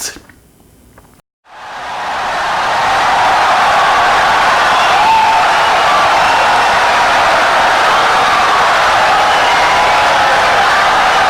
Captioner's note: wild applause and cheering for 17 seconds